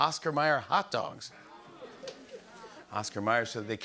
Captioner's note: audience groans